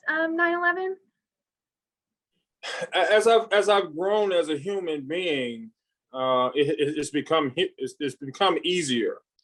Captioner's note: sigh